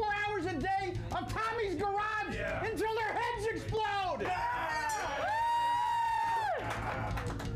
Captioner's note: audience cheering